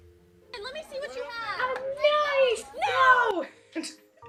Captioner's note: vine audio